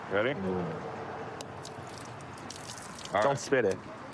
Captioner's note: none